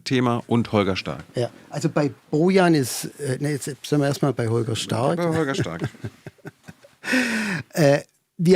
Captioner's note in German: gelächter